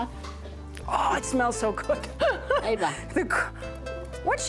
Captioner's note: laughs